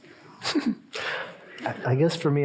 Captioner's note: chuckling